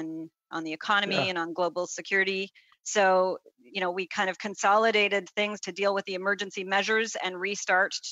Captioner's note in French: voix de l'interprète